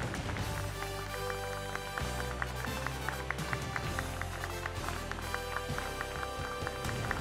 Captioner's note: applause